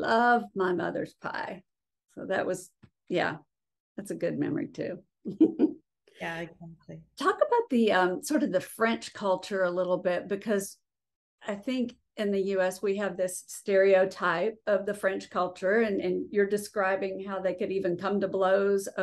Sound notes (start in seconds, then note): 5.2 giggling